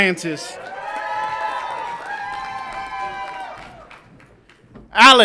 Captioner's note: audience applauds and cheers